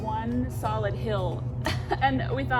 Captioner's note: chuckles